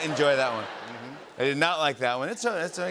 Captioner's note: laughter